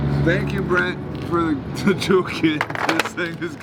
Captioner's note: laughs